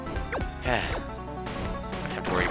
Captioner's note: sigh